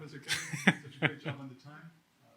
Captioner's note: chuckles